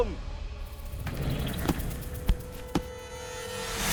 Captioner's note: thudding